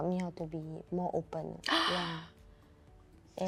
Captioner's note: gasp